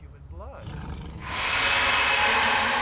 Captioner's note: growls